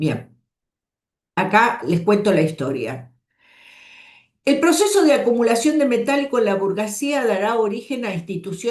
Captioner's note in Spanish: suspiro